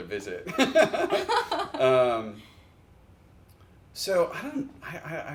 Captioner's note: laugh